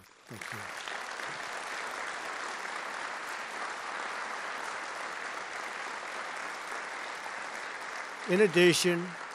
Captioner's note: applause